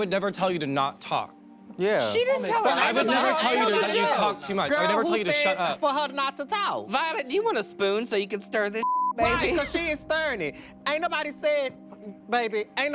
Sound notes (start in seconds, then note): 2.4 group yells